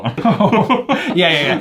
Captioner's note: both laugh